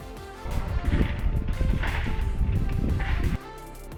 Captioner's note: slow mo leaves crunching